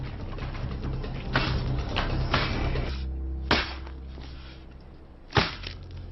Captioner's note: flesh squelching; weapon thudding